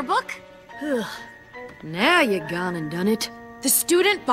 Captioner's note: sighs